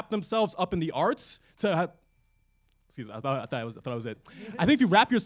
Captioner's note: bell chimes